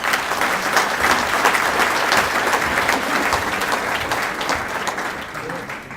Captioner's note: applause